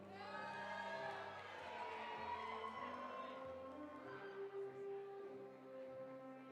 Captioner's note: audience cheering; audience applauding